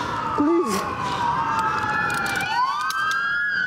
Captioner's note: sirenens wailing